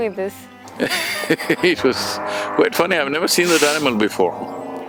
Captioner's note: laughs